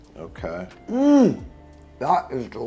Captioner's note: moaning